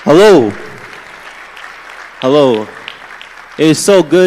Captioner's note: applause